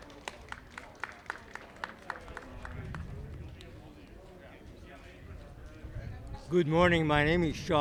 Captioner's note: clapping